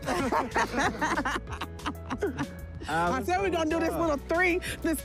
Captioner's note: laughter